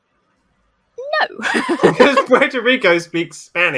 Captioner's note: laughs